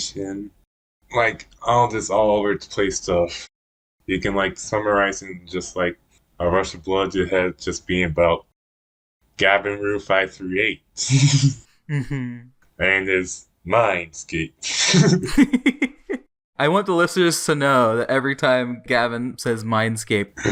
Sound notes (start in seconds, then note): 11.0 laughs; 14.8 both laugh